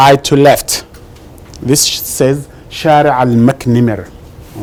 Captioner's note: phrase in Arabic